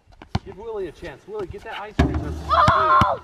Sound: yelling

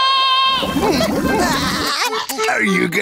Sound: laughing

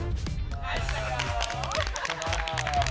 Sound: applause

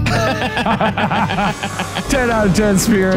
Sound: laughs

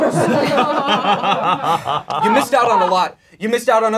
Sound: laughing

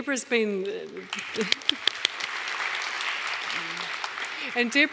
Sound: audience applauding

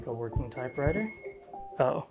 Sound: beep beep beep

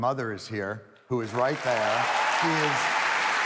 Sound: audience applauding

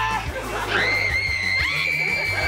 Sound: screaming

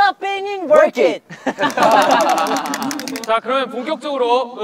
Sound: laughing

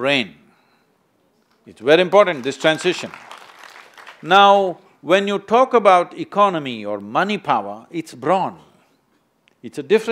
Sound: applause

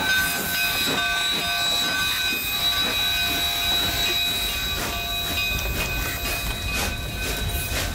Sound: clanking of wheels

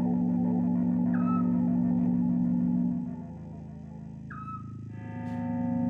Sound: beeping sound

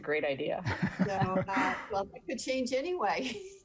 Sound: laughing

